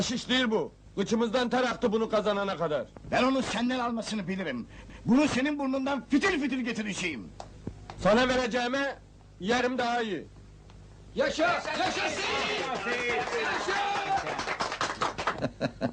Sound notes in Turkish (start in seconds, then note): 11.3 tezahurat sesleri̇; 11.4 alkiş sesleri̇